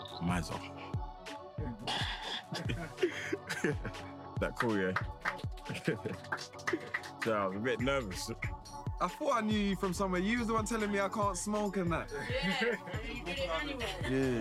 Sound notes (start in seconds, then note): 1.6 laughing; 4.5 clapping